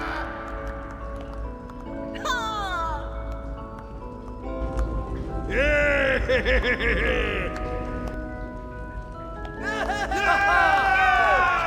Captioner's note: joyful cheering